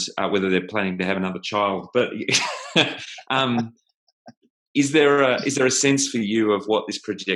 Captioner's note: laughs